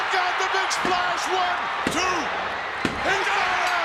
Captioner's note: hand pounding